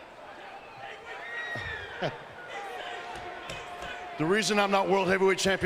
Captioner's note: crowd chattering